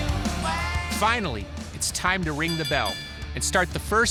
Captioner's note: bell ringing